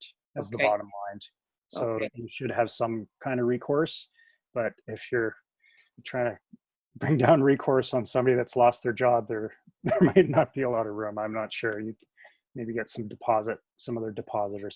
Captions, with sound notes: - Okay. That's the bottom line. So you should have some kind of recourse, but if you're trying to bring down recourse on somebody that's lost their job, (chuckles) there may not be a lit of room, I'm not sure. Maybe you get some deposit, some of the deposit,